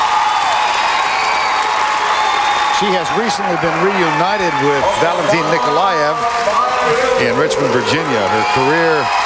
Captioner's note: applause